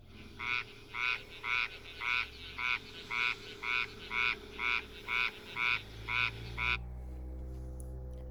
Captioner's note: croaking sounds